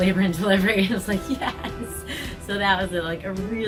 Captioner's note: laughs gently